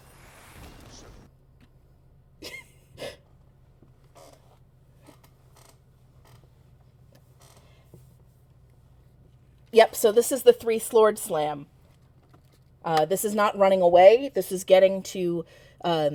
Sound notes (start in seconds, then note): 0.0 rumbling; 2.4 chuckles